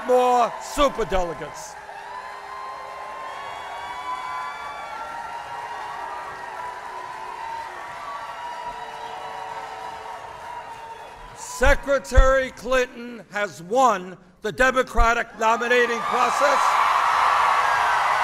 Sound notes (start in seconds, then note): 5.2 applause